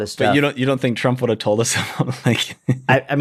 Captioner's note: chuckle